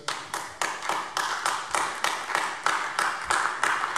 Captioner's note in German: Beifall AfD